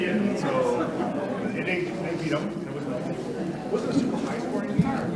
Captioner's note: attendees chattering